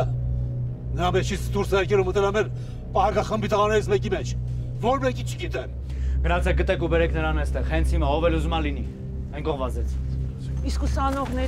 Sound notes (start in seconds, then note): 1.3 Zhozef speaking in foreign language; 5.9 Demir and Sanasar speaking in foreign language